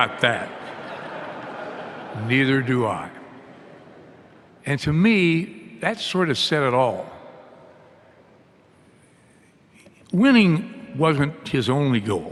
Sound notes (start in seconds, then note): 2.1 laughter